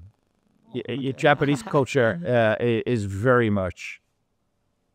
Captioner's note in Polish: śmiech